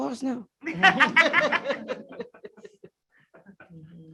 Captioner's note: laughter